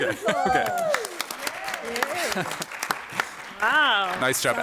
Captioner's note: applause